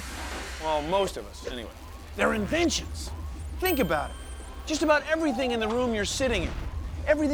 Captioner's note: none